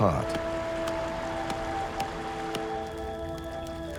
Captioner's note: wet thudding; flames crackling